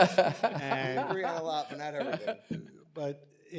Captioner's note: laughter